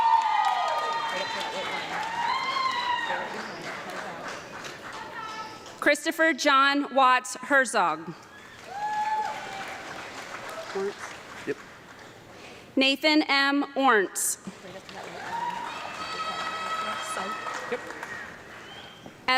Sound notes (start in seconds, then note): 0.0 audience clapping and yelling; 8.2 audience clapping and cheering; 14.4 audience clapping